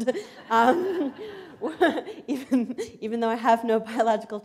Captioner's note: laughter